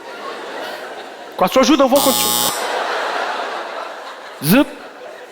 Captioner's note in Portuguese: campainha